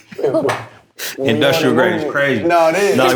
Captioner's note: laughter